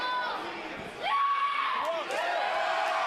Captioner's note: crowd cheering